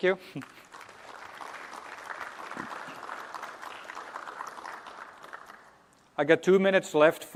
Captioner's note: applause